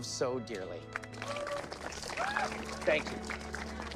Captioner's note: audience cheering